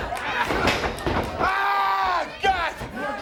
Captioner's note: crowd chatter